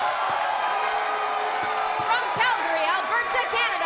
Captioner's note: cheers and applause